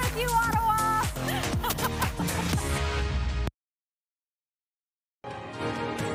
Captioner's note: laughter